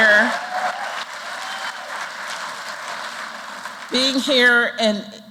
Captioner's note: applause